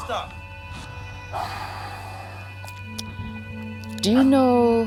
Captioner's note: Kevin sighs